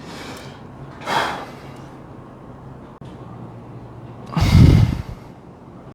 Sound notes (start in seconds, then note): 1.0 exhaling